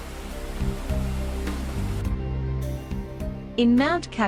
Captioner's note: water gushing